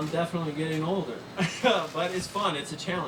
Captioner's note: laughs